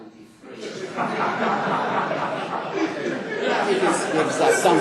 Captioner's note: laughter